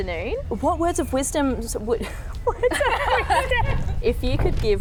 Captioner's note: laughs at herself